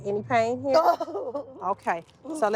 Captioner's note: crying